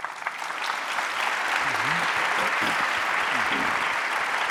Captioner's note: audience applauding